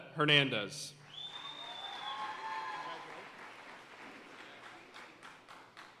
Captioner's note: audience cheering and applauding